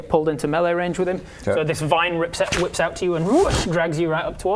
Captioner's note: whoosh